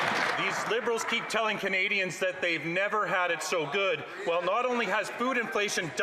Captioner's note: some Applause